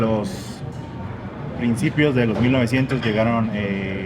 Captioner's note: speak in Spanish